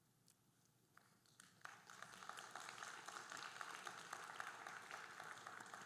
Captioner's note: audience applauding